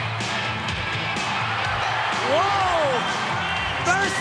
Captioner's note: crowd cheering; upbeat music